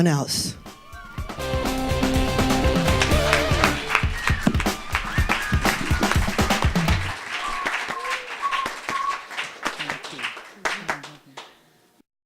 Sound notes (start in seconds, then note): 0.6 instrumental music; 1.2 audience clapping